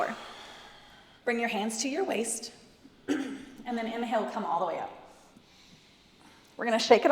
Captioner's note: cough